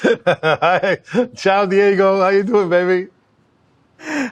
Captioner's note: laughs